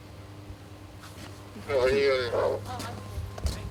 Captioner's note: over radio